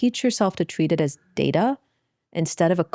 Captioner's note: none